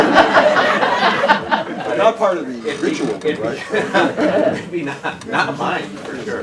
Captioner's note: laughter